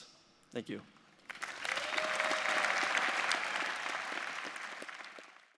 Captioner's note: audience applauding